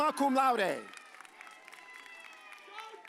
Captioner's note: audience cheers